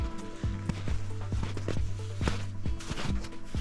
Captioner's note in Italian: Suono dei passi sulla neve